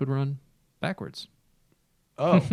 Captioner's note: laughter